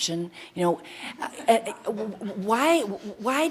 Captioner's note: audience laughter